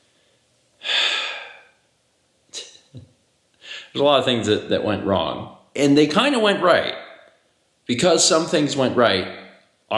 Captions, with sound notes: *exhausted sigh* There's a lot of things that went wrong and they kind of went right Because some things went right